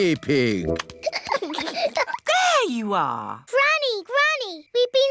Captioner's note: peppa and george giggling